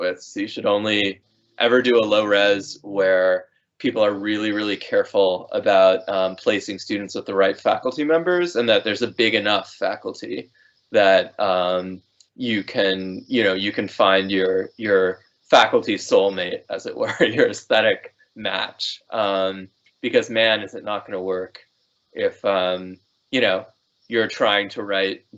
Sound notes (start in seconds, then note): 16.8 laughing